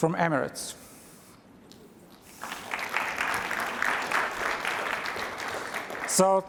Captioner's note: applause